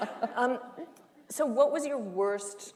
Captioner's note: laughter